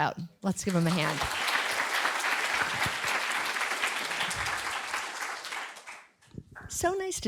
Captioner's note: audience applauding